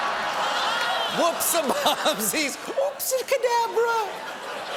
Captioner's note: laughter